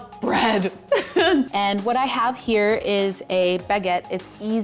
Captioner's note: laughs